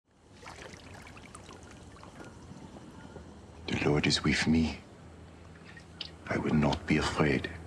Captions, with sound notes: (Water lapping gently) The Lord is with me. I will not be afraid.